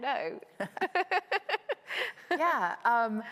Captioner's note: both laughing